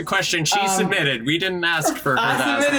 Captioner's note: FBE chuckles